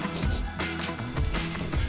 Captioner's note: sniffling, tearing up